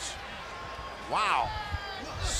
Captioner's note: crowd chatter